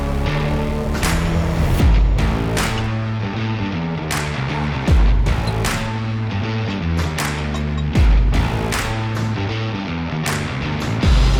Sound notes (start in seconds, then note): 5.0 tool clanking; 5.0 upbeat music